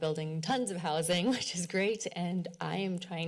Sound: chuckles

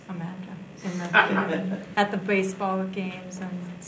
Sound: laughing

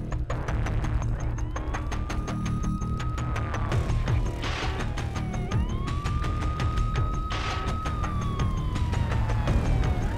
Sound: siren wailing

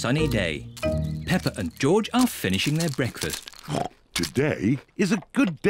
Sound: snorts

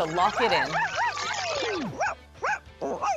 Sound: Dog-E barks

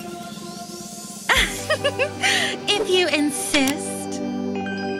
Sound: giggles

